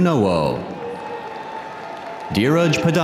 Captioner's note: audience cheering